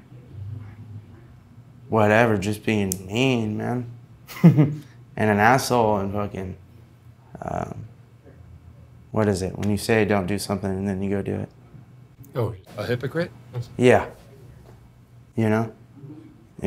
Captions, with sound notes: Whatever, just being mean man (laughing). And an asshole and fucking. What is it, when you say don't do something and then you go do it? - Oh, a hypocrite? - Yeah, you know?